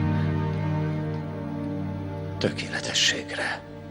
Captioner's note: whispering